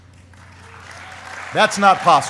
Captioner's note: applause